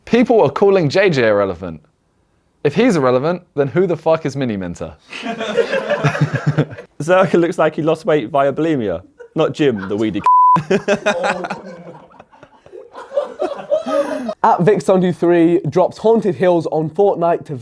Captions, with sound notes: people were calling JJ irrelevant. If he's irrelevant, then who the fuck is Miniminter? (laughs) (audience laughs) - Zerkaa looks like he lost weight via Bulimia not gym the weedy (beep) (laughs) (audience laughs) - @Vikkstar123 drops Haunted Hills on Fortnite